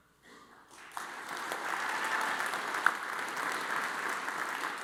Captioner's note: audience applauds